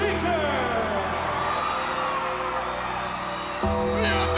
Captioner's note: crowd cheering; eerie music